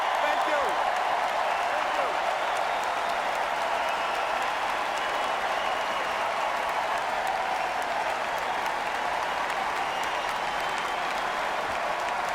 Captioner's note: applause